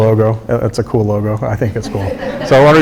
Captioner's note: crowd laughing